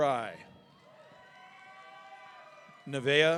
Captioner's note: audience cheering